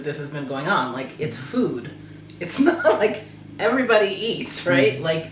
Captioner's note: eats